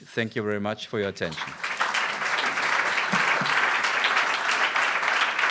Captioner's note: applause